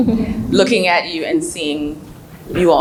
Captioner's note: laughs